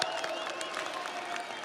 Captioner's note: audience applauds; audience cheers